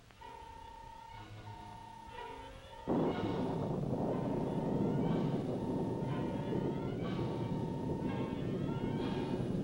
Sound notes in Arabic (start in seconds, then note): 0.2 صافرة إلكترونية; 2.8 هدير الرعد